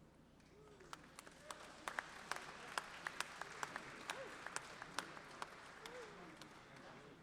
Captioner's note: applause